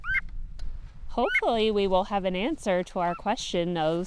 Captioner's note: bird calls